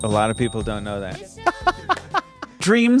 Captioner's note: laughing